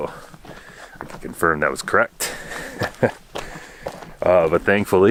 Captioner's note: laughing